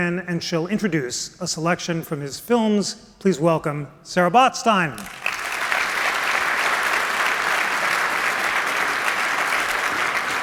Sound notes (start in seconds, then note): 4.9 applause